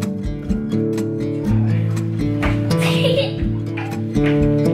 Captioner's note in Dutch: gelach